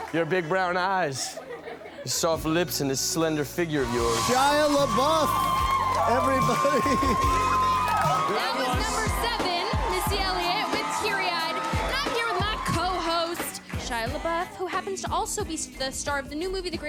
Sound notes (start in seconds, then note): 5.4 audience applause